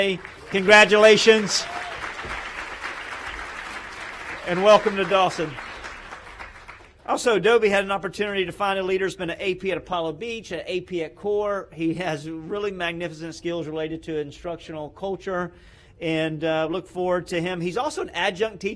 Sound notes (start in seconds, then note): 6.7 applause